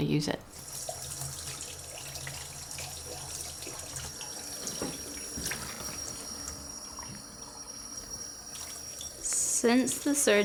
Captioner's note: sound of water running into basin